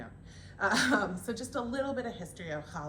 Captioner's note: laughter